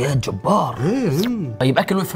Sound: slurp

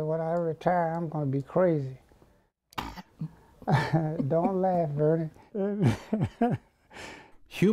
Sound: laughs

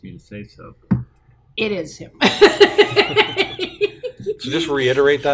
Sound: laughter

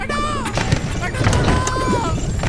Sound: faint screaming

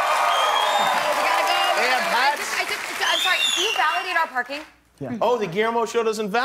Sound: cheers and applause

